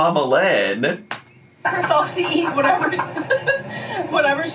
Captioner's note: both laughing